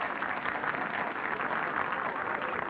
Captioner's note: applause